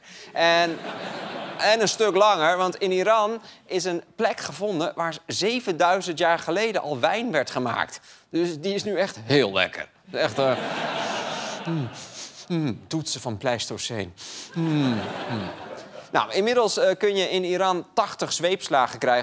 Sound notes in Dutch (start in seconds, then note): 4.1 gelach; 14.6 gelach; 18.2 gelach